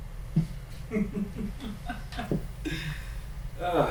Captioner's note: laughs